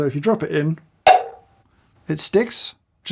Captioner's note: magnet clanks